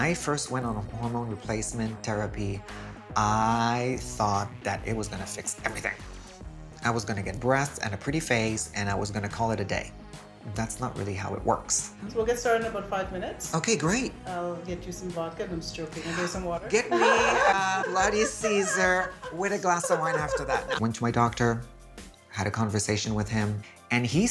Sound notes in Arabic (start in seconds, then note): 16.8 يضحك